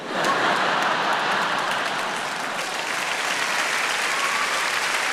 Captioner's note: audience clapping